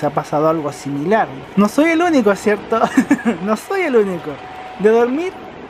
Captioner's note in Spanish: risas